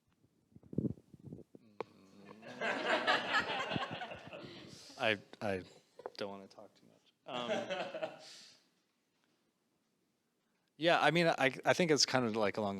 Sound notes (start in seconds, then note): 2.4 audience laughing